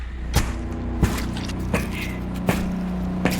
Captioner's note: machete chopping flesh, bloody sounds